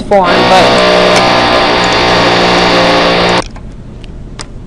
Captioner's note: engine whirring